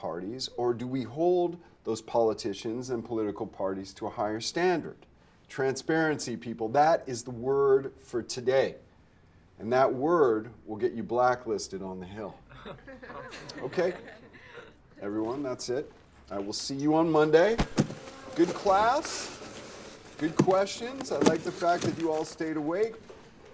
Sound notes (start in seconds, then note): 12.5 students chuckling